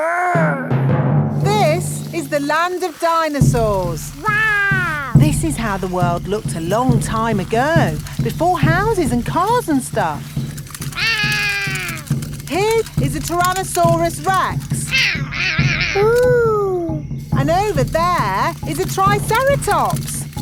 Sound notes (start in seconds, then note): 11.0 roaring; 15.0 roaring